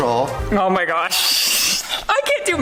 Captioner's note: laughs